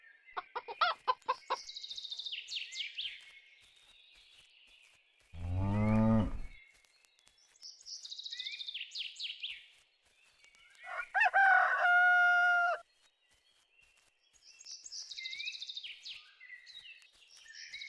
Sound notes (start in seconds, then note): 0.3 chickens clucking; 2.0 birds chirping; 5.4 cow mooing; 10.8 rooster crowing